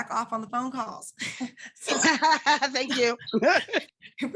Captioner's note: laughing